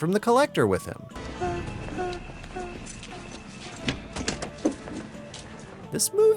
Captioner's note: heh heh heh heh